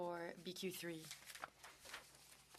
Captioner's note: speaking French